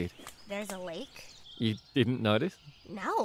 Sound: laughs

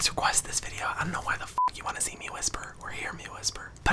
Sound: beep

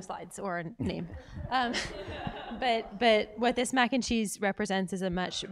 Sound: laugh

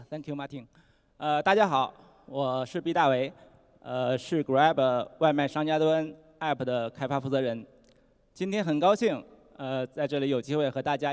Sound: non-english speech

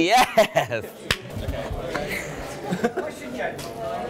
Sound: laughs

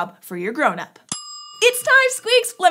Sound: timer dings

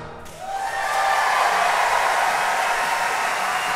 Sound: applause

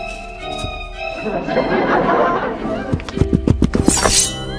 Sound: laughs with studio audience

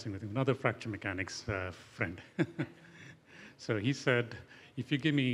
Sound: laughing

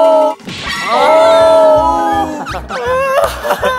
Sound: crying

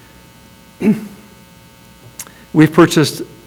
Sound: clears throat

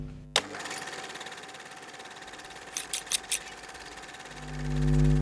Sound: droning; sewing machine running

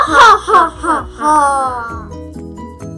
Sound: maniacal laughter

